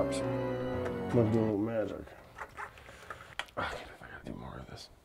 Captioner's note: utensil scraping; sighs